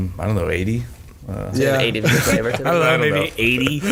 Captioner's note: chuckles